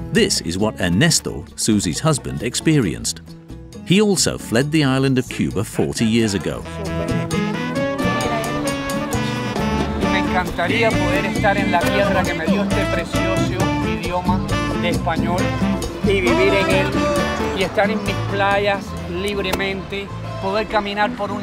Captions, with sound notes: This is what Ernesto, Suzi's husband experienced. He also fled the island of Cuba 40 years ago. [spanish spoken audio]